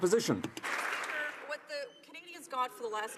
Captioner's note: some Applause